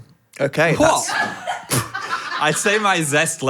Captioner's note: staff laughing